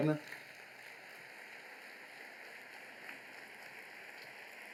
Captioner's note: applause